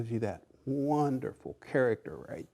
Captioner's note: none